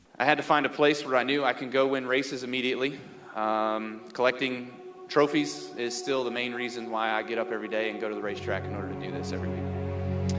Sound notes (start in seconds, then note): none